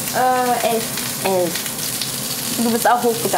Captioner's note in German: Wasserplätschern